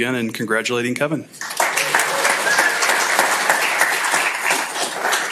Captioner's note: applause